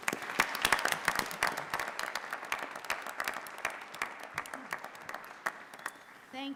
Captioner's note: applause